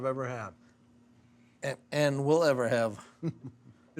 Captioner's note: chuckling